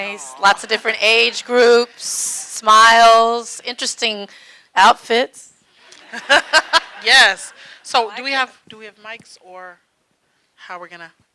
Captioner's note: laughing